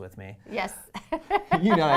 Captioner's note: laughs